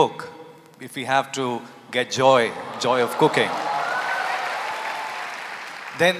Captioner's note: applause